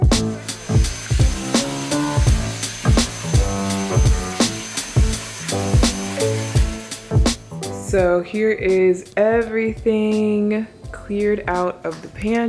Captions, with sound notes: (vacuum roaring) So here is everything cleared out of the pantry.